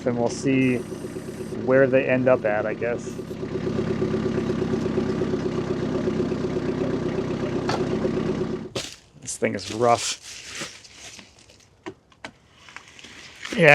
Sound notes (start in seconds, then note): 3.8 tractor rumbling